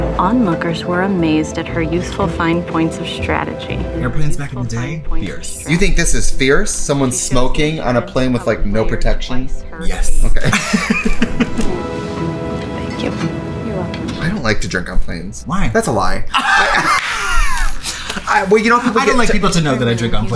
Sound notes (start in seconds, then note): 10.4 laughs; 16.3 laughs